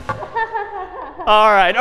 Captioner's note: می خندد